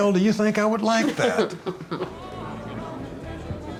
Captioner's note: Angela chuckling; upbeat folk music